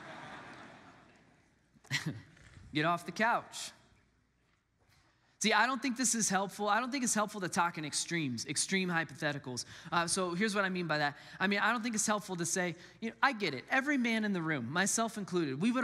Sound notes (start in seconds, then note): 0.0 congregants laugh; 2.9 laugh